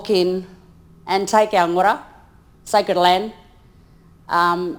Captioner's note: speaks in foreign language